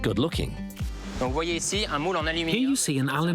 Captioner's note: interviewee speaking foreign language